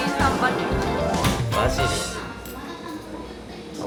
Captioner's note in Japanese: 疑いの声